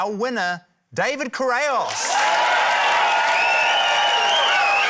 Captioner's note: cheering, applause